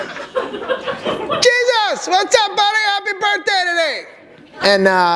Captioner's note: laughter